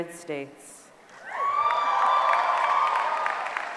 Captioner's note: applause